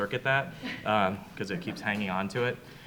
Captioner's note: audience chuckles